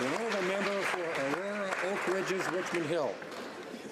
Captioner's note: some Applause